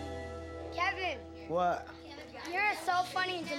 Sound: none

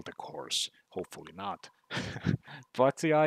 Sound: chuckles

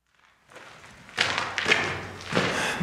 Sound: footsteps echo

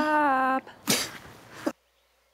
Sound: gasps

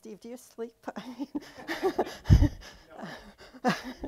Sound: laughter

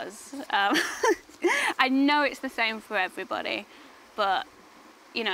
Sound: laughs

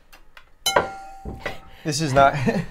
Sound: glass dinging

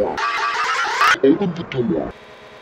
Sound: lower voice

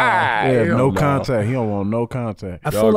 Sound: laughs

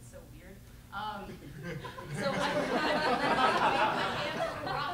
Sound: laughter

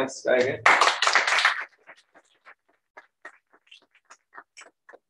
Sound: applause

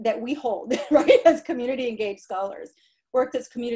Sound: laughter

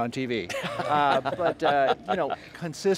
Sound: people laughing

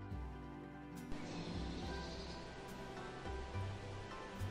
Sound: calm music; nature sound

